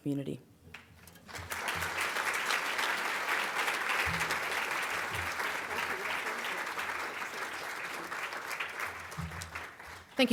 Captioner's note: audience Applause